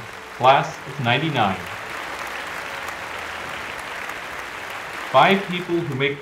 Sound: applause

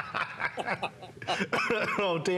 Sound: laughter

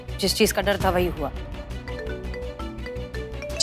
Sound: phone ringing

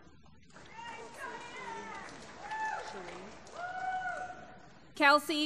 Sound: applause

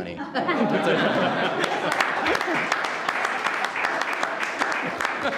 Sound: laughing and clapping

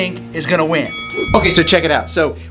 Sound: bell ringing

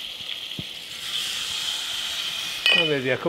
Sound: liquids sizzling

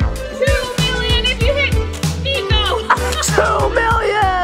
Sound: laughs

